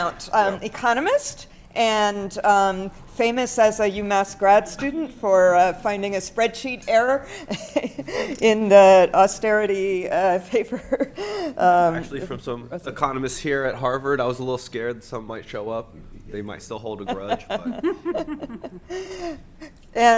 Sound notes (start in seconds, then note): 7.6 laughs; 17.0 laughter